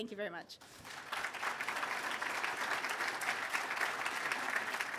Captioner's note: applause